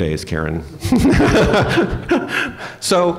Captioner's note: laughter